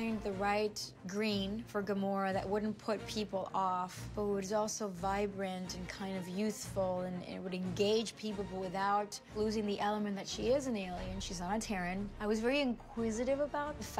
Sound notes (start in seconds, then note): none